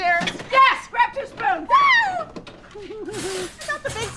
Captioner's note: giggles; both giggling